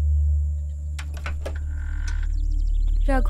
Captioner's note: Door opens